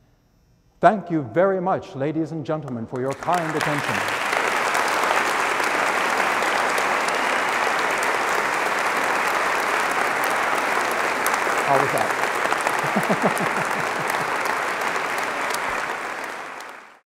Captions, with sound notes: Thank you very much ladies and gentlemen for your kind attention. [ Applause ] >> I'll be back. [ Applause & Laughter ]